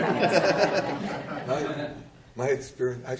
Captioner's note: audience coos